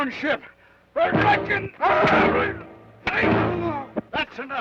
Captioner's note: Joshua groans